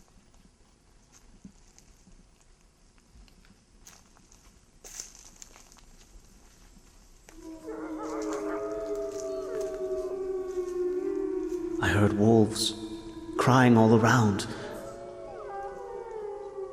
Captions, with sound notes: (eerie music) (wolves howling) - I heard wolves crying all around.